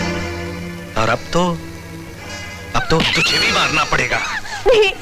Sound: screams

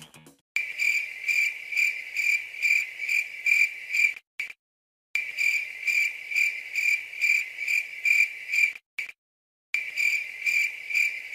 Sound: crickets chirping

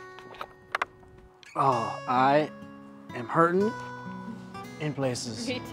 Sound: sighs

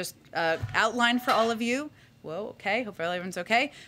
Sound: object drops to floor

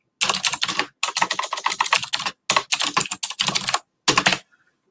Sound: keyboard clicking

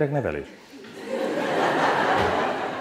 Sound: laughter

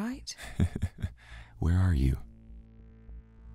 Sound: laughs

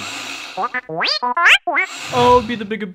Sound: beeps

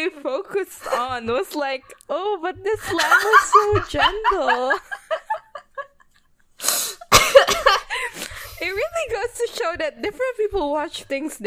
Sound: laughs; laughing

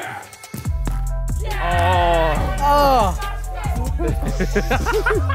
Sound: player cheers

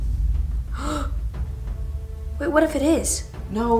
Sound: gasping

